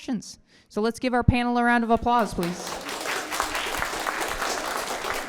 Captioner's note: applause